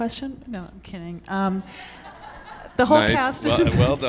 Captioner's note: audience laughing